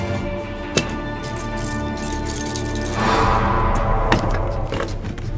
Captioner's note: chains rattling